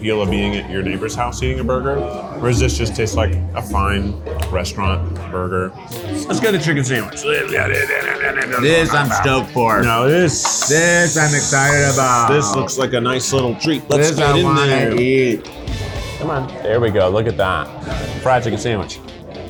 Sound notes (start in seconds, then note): 6.9 jabbering